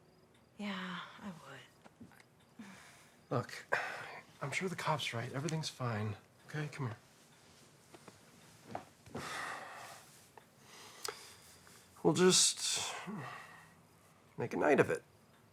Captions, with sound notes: Yeah, (sighing) I would. - Look, (sighs) I'm sure the cop's right, everything's fine. Okay, come here. (sighs) We'll just, (sighs) make a night of it.